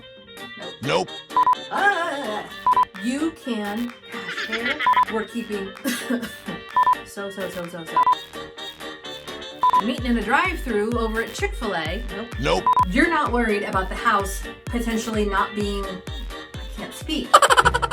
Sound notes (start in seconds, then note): 4.0 coughs; 8.0 beeps; 8.8 rag time music; 17.4 crazy laugh